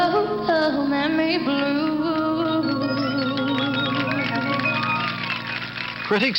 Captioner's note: vocalizes